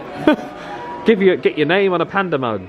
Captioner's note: laughing